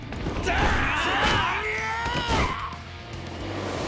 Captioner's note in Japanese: うめき声; 叫び声